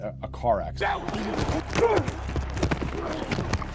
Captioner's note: grunting